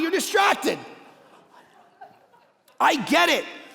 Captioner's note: congregation laughing